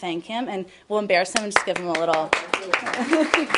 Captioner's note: applause